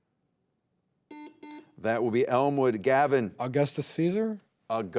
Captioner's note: buzzer beeps